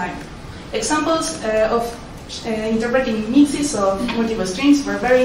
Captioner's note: murmurs